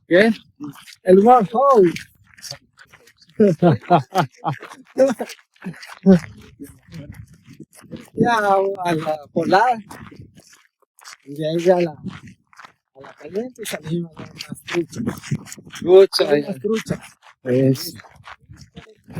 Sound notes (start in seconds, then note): 0.7 laughs